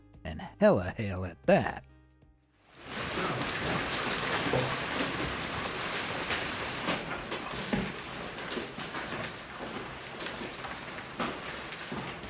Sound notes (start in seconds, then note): 2.7 hailstones clattering; 2.8 water splashing